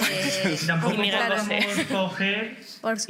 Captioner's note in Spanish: Risas